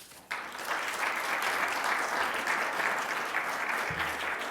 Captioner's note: applause